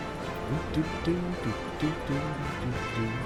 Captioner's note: humming